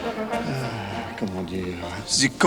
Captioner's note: John sighs and speaks French